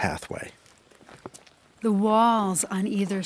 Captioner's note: stones crunching underfoot